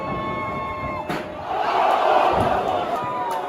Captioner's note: crowd goes crazy